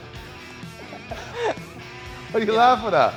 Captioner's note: Sol chuckles